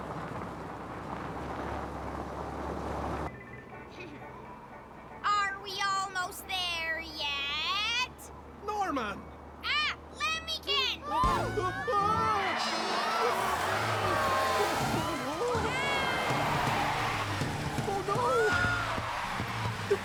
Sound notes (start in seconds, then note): 11.2 all Screaming; 12.8 tires Screeching